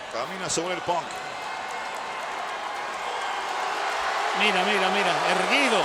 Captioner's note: applause